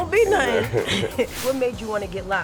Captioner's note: chuckling